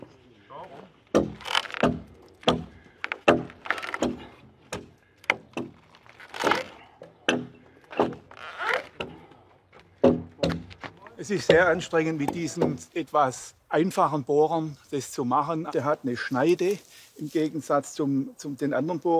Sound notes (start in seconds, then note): 1.7 knocks